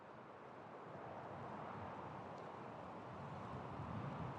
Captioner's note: light wind